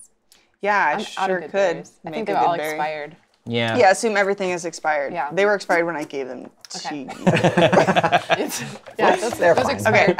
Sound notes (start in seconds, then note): 7.0 laughter